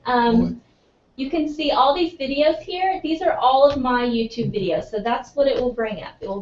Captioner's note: laugh